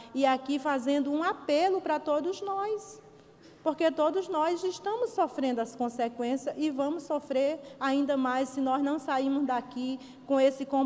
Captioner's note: speaking foreign language